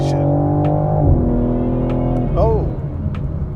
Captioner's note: engine continues roaring